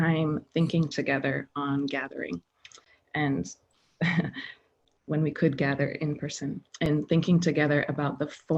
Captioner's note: laughing